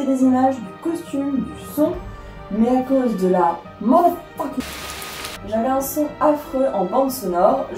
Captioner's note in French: pluie